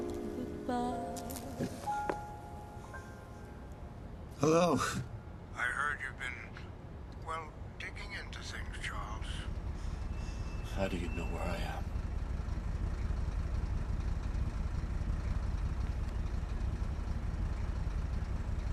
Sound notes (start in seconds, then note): 12.8 car engine humming